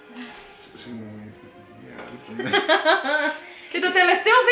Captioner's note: chuckles